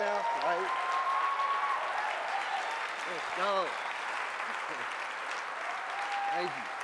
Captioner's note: applause